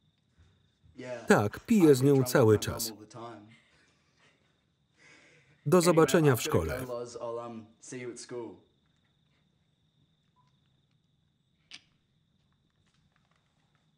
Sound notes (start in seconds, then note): 3.6 giggling